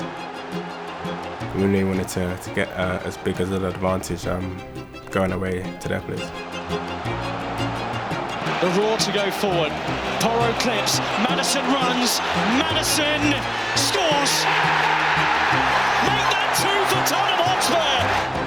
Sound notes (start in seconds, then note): 14.7 crowd erupts